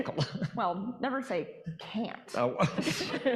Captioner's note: audience laughing